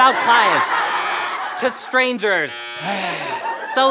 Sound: buzzing; sighs

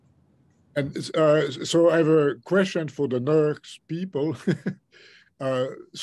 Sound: chuckles

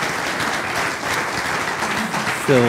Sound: applause

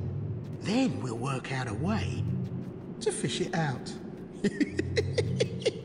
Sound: laughs

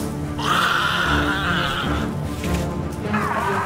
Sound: growling; grunting; growling; suspenseful instrumental music

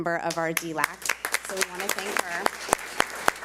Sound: public applauding

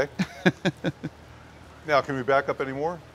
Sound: laughter

